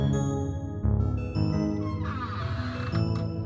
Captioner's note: door creaks open